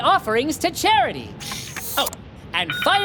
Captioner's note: machine whirring